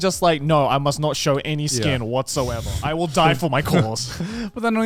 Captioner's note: hosts laugh